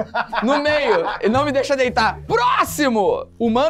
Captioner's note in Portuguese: risadas